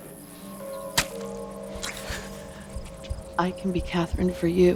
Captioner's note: fleshy sucking